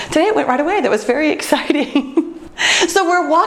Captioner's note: laughs